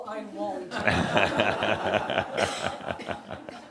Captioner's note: laughter